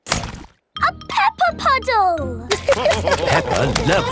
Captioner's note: laughter